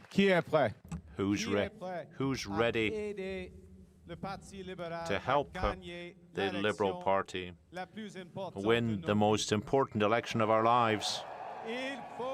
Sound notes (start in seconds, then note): 0.7 cheering and applause